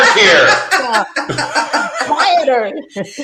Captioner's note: everyone laughing